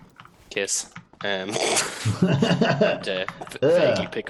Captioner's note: giggles